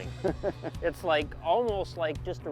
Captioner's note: chuckles